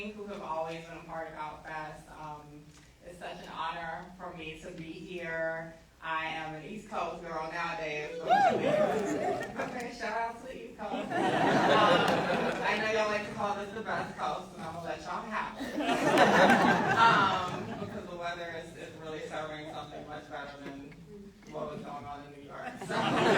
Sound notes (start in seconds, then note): 8.1 crowd cheering; 10.9 audience laughing